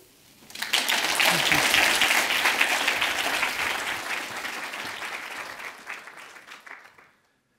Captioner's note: audience applauds